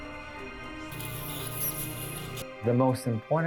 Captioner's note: instrument whirring